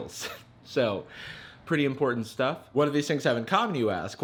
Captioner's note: chuckling